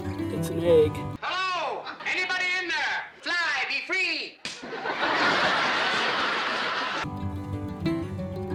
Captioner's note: laughter